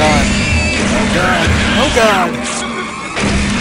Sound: gunfire

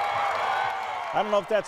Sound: cheers

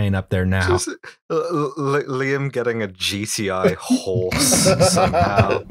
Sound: laughter

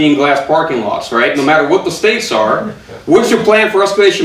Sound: audience chuckling

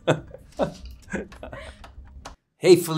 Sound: Millie laughs; Matthew chuckles

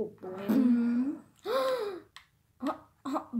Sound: le gasp

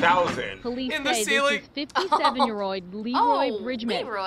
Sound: laughs

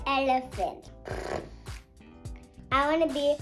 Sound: elephant noise

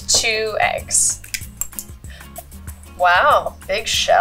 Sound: cracking eggs

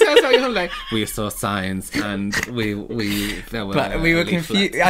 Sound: monotone Voice

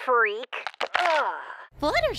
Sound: bones cracking

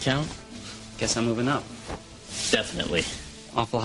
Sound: scoffs

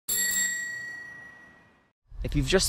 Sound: bike bell chiming

